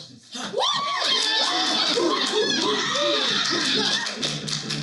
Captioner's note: cheering